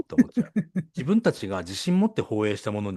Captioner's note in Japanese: 笑い